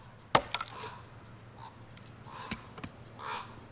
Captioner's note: tool banging